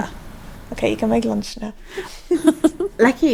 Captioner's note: giggling